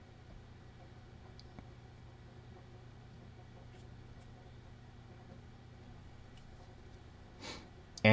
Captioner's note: silence